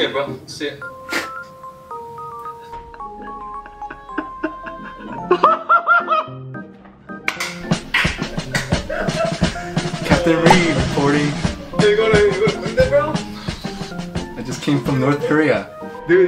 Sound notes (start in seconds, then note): 2.8 laughter